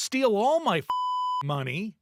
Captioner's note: beep